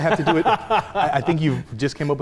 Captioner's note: laughing